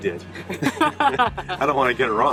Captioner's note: laughing